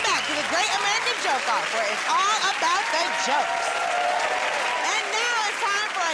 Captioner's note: cheers and applause